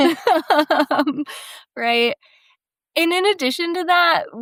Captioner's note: group laughing